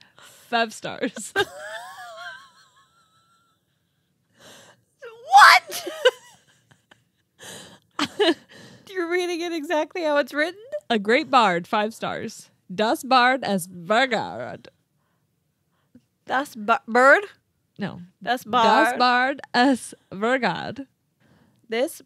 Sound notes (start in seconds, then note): 1.4 wheezing